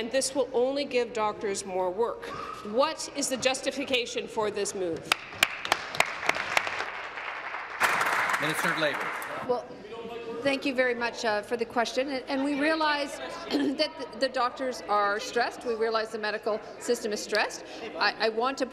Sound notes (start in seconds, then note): 7.7 applause